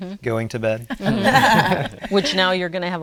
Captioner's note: laughs